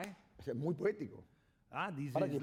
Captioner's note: speaking spanish